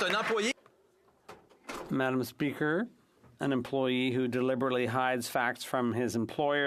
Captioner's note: applause